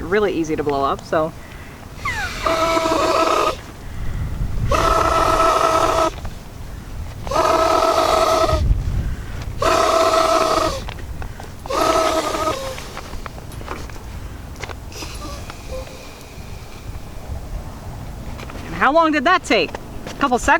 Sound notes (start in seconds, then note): 3.5 blowing noises; 5.5 air noises continue; 5.5 squeaking